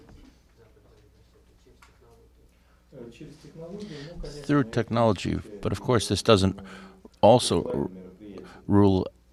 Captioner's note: through translator